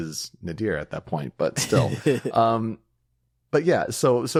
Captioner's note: laughing